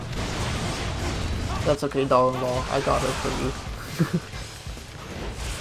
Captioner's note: chuckles